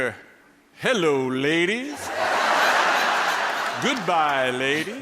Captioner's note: people laughing